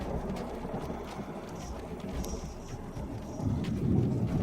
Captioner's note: thunder claps; whispers